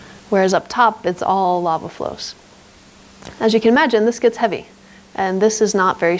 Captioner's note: none